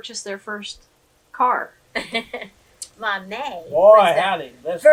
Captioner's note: laughs